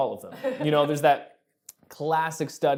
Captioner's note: laughing